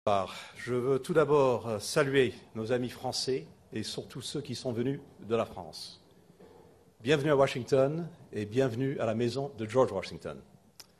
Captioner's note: in French